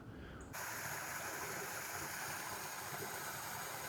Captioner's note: water lapping